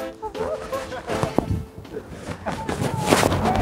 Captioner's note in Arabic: يضحك